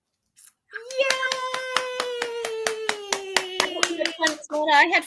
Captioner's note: clapping